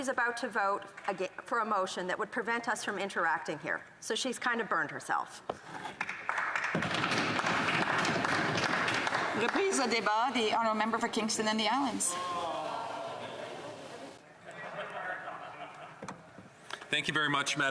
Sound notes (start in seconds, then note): 10.0 some Applause